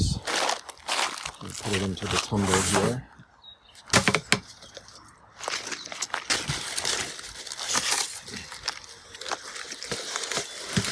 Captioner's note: rustling noises; tapping noises; birds chirping